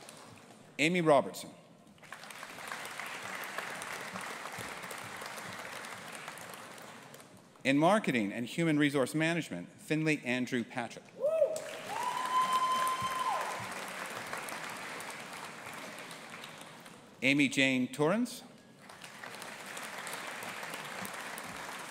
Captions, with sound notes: Aimee Robertson. (AUDIENCE APPLAUDING) In Marketing and Human Resource Management, Finlay Andrew Patrick. (AUDIENCE APPLAUDING AND CHEERING) Amy Jane Torrens. (AUDIENCE APPLAUDING)